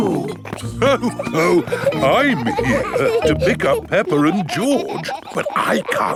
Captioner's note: laughs